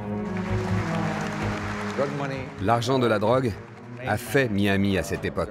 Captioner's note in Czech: Potlesk